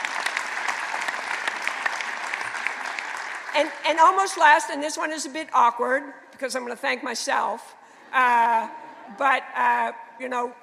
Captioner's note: applause